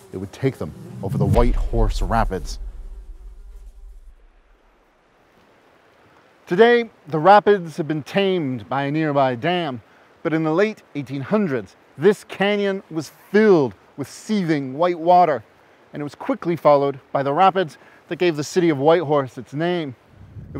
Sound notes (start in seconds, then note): 4.4 water rushing gently